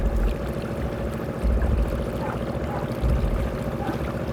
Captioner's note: motor trolling